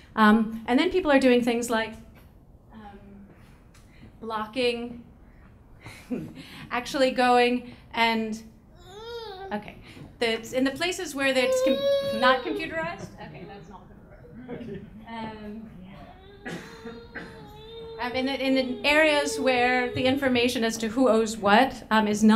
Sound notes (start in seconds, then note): 8.7 baby whimpering; 11.3 baby crying; 14.0 laughing